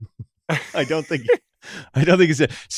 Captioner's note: laughs